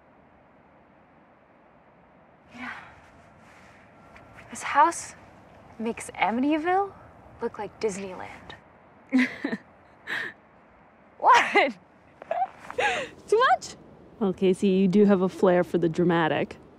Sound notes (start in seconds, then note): 9.1 off screen chuckle